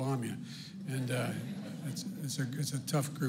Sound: laughter

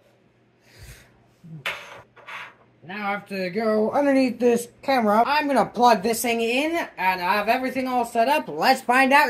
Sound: breathes

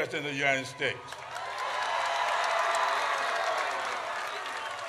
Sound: audience cheers

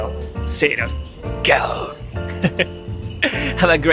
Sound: lion roar in Japanese

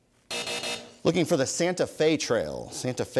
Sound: buzzer sounds

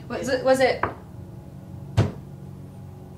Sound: knocks; pounds

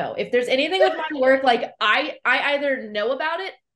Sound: laughs

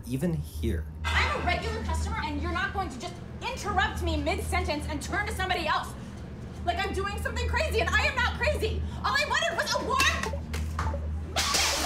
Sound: arguing loudly

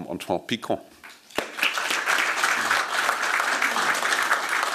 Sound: applause

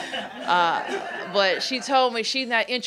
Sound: laughter

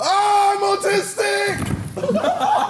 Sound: chair bangs; laughing

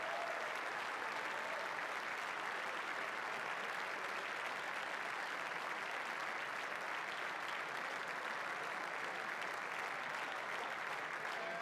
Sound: applause

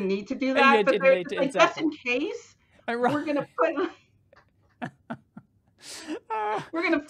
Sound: chuckles

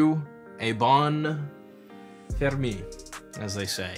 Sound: speaking foreign language

